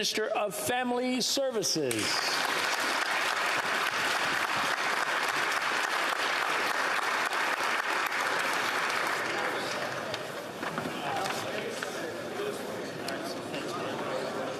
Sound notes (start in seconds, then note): 5.3 applause